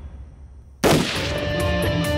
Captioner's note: Gun shot